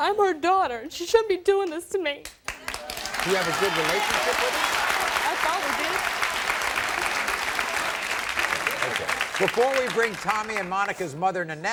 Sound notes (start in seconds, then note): 2.5 clapping; 7.3 clapping